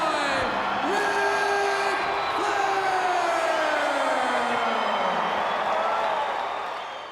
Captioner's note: crowd cheers